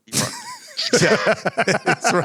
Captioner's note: laughter